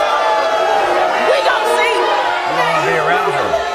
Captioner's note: audience booing